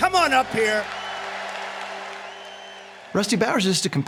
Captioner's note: cheers and applause